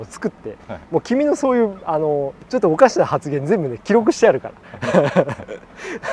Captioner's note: laughs; laughs